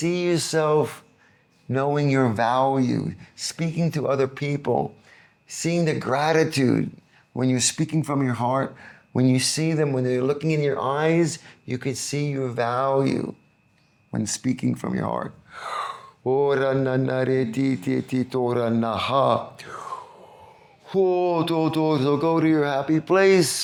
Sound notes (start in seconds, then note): 17.7 non-english speech